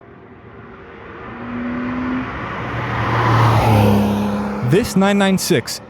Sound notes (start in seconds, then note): 3.9 engine roar